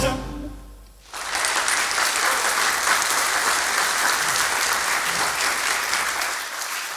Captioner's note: music out. Applause